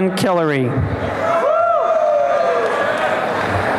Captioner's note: applause and cheering